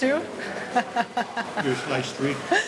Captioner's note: laughs